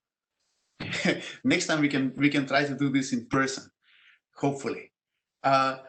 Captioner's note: laugh